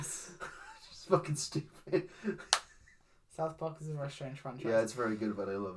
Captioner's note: laughs